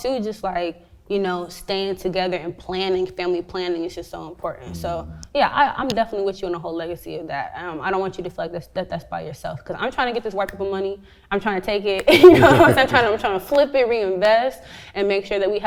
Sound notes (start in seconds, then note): 12.1 both laugh